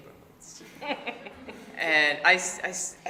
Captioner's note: laughing